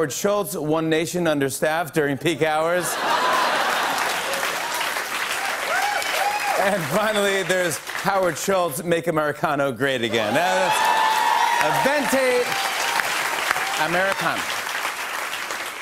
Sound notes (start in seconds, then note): 2.8 laughter, cheers, applause; 10.1 cheers and applause